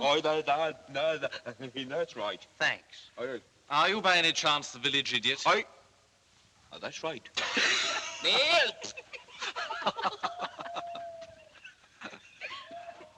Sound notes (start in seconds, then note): 7.4 laughing; 8.8 all Laughing